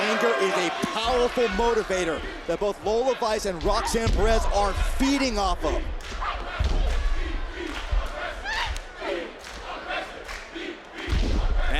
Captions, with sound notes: Anger is a powerful motivator that both Lola Vice and Roxanne Perez are feeding off of. (Lola thuds) (crowd chanting)